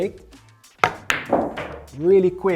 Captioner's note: pool ball hitting